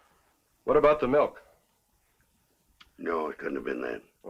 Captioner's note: none